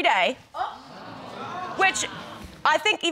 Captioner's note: audience gasping